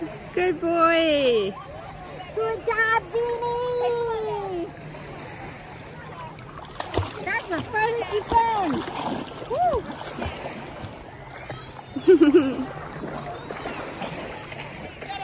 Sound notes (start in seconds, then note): 11.8 laughs